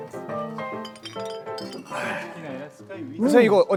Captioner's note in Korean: 병 부딪히는 소리